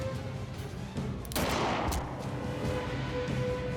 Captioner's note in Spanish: detonación de disparo